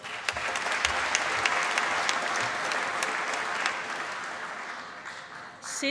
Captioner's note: applause